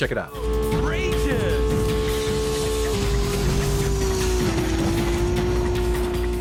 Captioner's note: roars